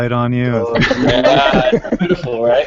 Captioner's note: laughter